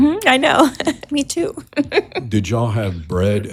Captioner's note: chuckles